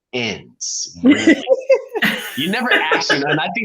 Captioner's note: laughing